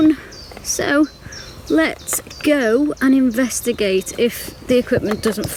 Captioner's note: birds chirping